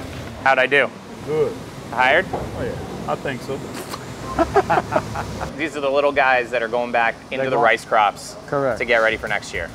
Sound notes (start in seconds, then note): 4.2 all laugh